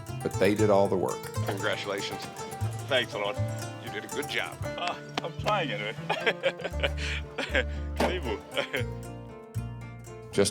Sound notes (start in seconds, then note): 6.5 chuckles; 8.2 speaks in Swahili